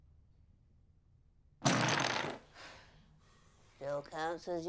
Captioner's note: jenga pieces crash down